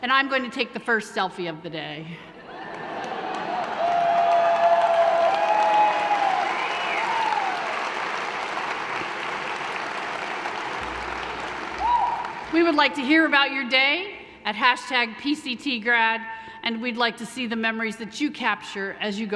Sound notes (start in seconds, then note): 2.9 cheering, clapping